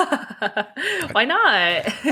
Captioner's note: laughter